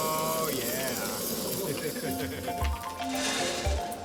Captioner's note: laughter; upbeat percussive music